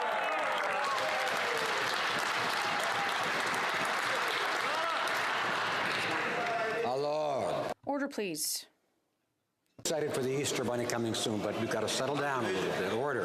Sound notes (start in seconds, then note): 3.3 some Applause